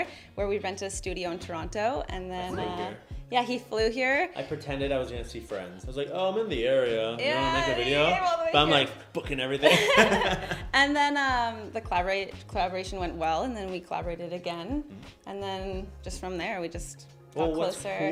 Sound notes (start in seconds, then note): 9.7 laughs